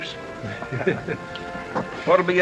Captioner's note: embarrassed laughs